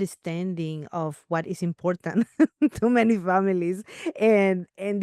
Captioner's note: laughs